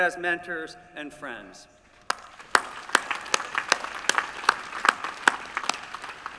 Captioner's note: applause